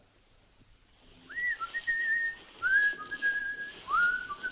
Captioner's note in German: pfeift weiter